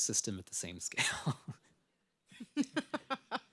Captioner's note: laughs